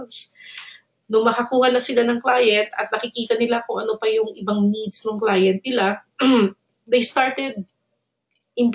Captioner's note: cough